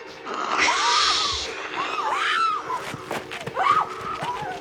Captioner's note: dramatic music; all screaming